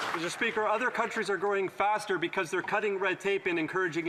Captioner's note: some Applause